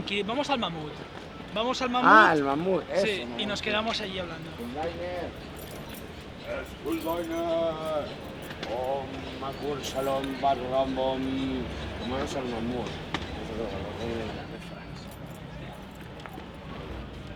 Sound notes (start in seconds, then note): 9.1 speaking absolute gibberish